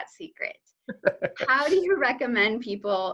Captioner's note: laughs